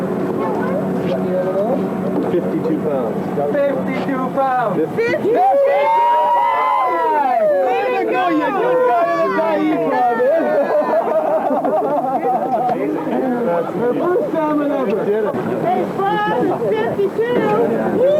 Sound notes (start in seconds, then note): 5.2 cheering; 10.2 laughter; 15.5 water sounds